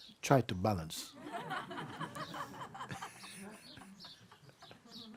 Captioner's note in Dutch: gelach